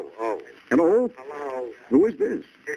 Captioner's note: on phone